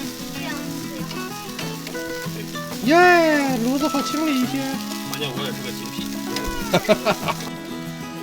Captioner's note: laughter